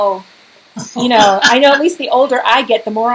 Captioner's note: laughs